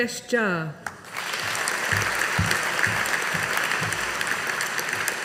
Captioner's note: audience applauding